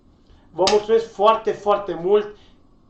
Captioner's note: clap